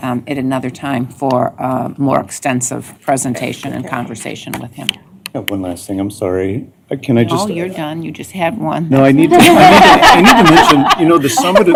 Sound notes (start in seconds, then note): 9.2 laughter